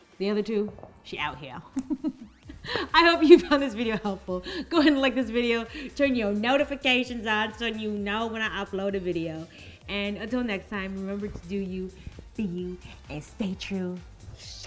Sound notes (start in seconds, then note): 1.7 laughs loudly